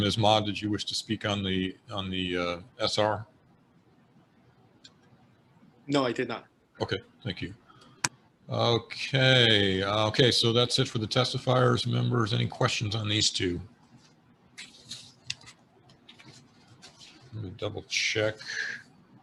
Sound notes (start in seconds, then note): 14.1 silence